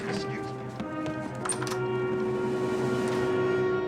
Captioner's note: door opens and closes